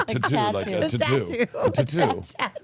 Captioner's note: laughing